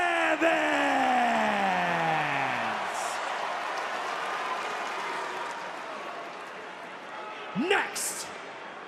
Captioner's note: crowd cheers